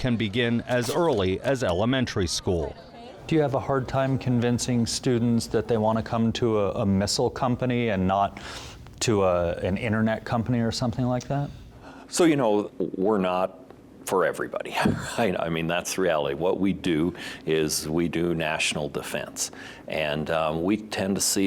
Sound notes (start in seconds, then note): 14.8 laughing